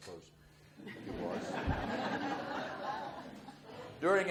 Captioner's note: audience laughs